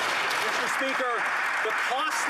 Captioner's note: applause